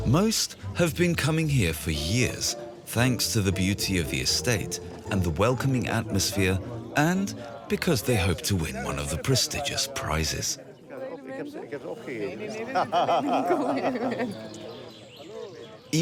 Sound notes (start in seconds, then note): 11.3 speaking in foreign language; 12.7 both laughing